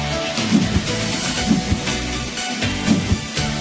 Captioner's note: air whooshing